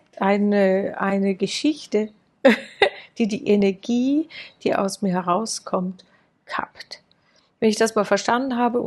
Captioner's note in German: gelächter